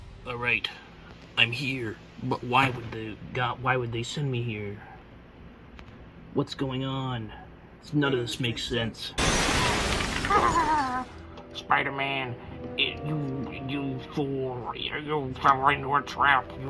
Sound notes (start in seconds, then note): 9.2 extremely loud and intense glass shattering explosion; 10.2 maniacal evil laughing